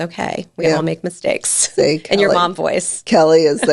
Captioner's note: laughs